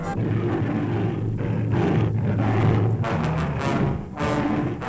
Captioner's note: gorilla growling